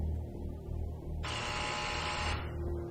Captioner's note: door buzzes